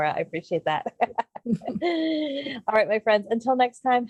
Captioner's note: laughs